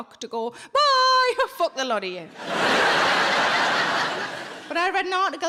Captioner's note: audience laughing